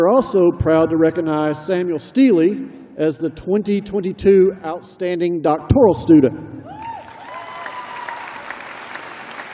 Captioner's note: applause